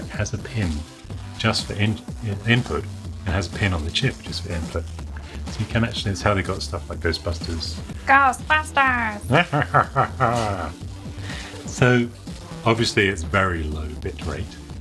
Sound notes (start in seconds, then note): 8.1 voice modulated